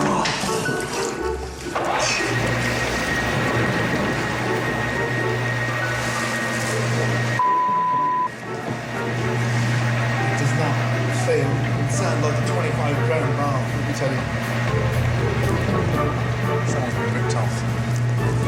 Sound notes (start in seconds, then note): 2.5 jacuzzi whirs